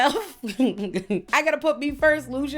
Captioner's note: chuckles